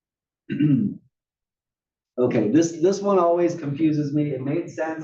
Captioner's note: cough